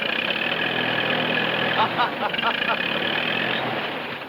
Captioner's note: laughs